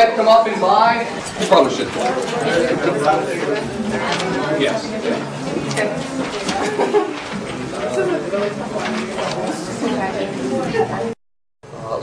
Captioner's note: students talking